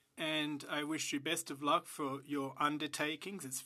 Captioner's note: speaking French